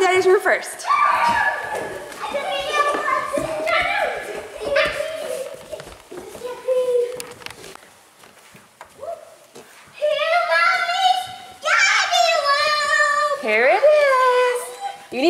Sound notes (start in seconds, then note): 2.6 kids talking excitedly